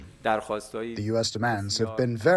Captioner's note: through translator